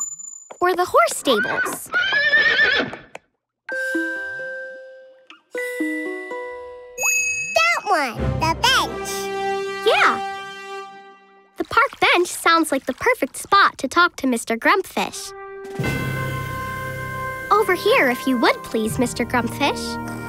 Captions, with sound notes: or the horse stable? [neighing] - That one. - The bench. Yeah. The park bench sounds like the perfect spot to talk to Mr. Grumpfish. Over here if you would please, Mr. Grumpfish.